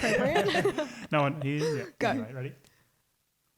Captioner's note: voice muffled